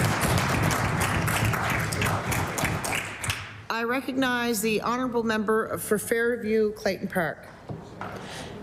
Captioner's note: applause